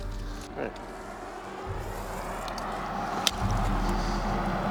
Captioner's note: traffic humming